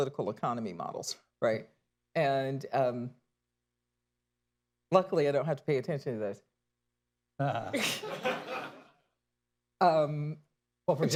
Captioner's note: laughter